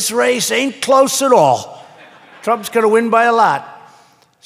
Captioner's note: laughter